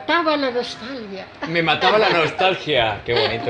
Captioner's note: laughs